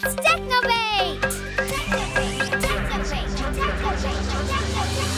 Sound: beep!; echoing

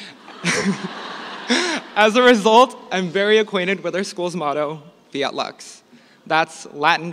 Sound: laughter

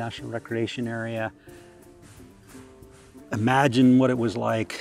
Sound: steam locomotive

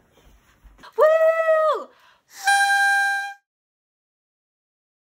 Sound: whistle

